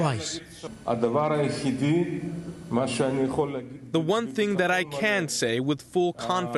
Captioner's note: through translator